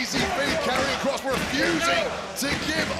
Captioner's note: audience cheering